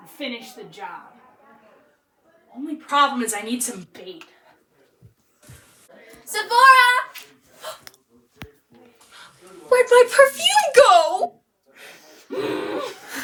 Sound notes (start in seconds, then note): 9.1 gasp